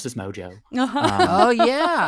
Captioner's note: laughing